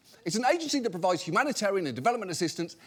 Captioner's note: none